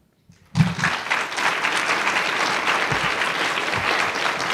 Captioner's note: audience applauding